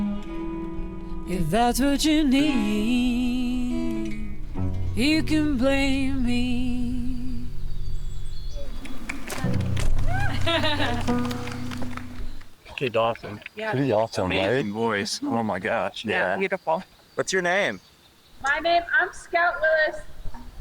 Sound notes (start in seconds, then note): 7.2 audience Clapping; 7.2 woman Laughing